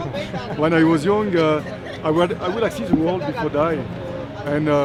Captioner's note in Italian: Inglese